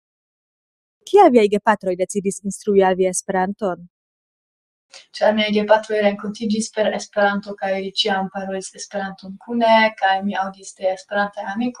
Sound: speaking esperanto

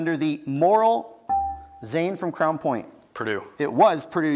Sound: buzzer beeps

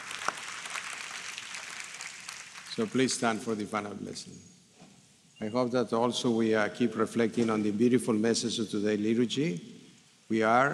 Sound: applause

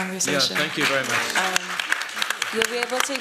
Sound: applause

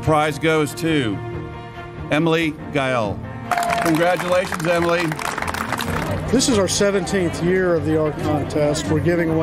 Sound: applause

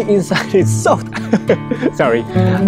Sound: laughs

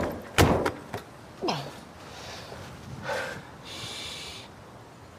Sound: grunts, breathes deeply

